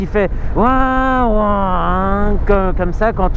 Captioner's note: TMax impersonation